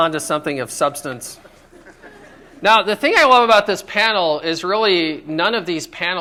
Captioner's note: laughter